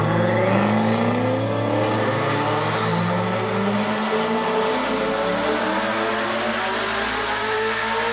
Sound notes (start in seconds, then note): 2.6 engine revving